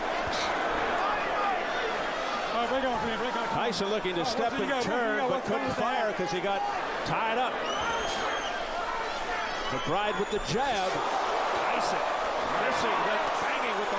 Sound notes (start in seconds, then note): 6.7 applause